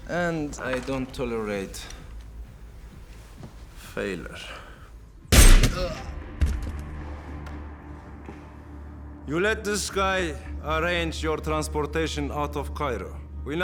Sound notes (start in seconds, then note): 5.3 gun firing; 6.2 dark music; 6.2 man grunts